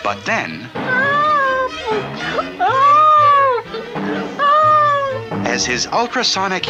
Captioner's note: bouncing!